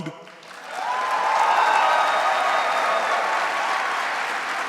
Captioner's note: audience cheering